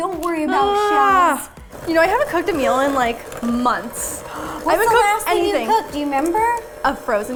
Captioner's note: gasp